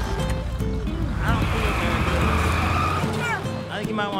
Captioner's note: tires squeal